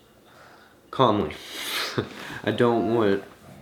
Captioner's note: laughs